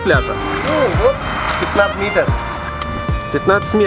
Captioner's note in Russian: смеётся